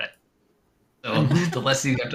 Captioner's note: laughter